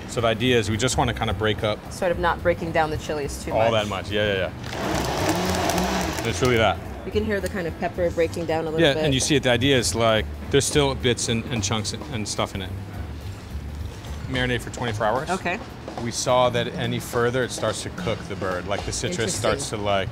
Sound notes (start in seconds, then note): 4.6 blender running